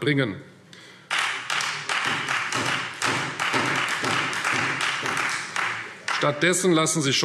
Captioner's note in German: Beifall Freie Demokraten